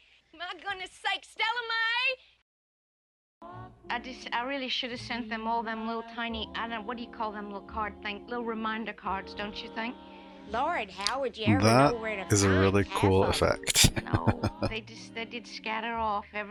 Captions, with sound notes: That is a really cool effect. [Chuckling]